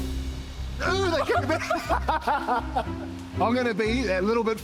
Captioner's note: both laugh